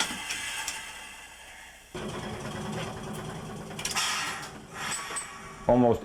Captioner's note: trolley engine idling